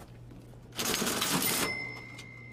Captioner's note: cash register